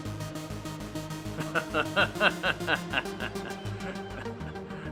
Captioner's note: Mack laughing